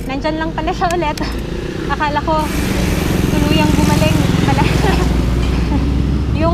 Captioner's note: laughs